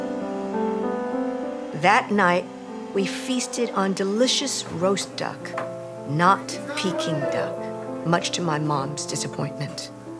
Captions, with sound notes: That night, we feasted on delicious roast duck, not Peking duck, (kitchen staff shouting) much to my mom's disappointment,